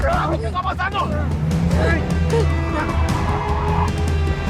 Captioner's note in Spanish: Gritos